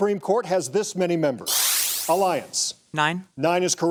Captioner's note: electric shuttering